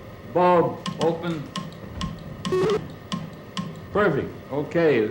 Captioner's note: clicks